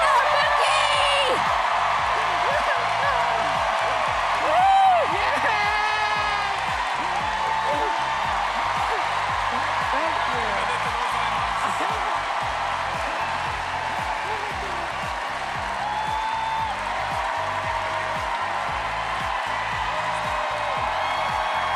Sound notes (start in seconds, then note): 10.0 cheers and applause